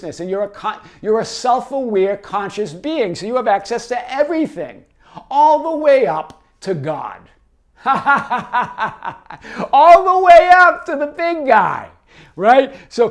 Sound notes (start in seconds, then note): 7.8 laughs